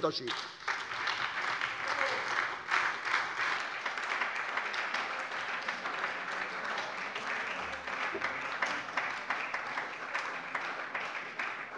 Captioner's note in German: Beifall bei der SPD